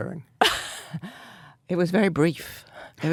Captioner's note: Anna laughs